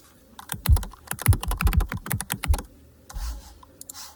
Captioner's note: keyboard clacking